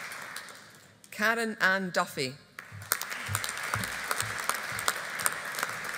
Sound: audience applauding

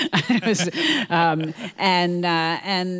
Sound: both laughing

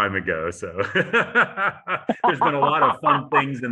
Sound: laughter

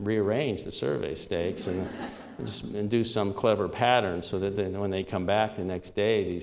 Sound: laughter

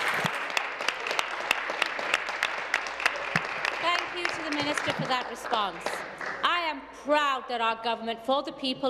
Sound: applause

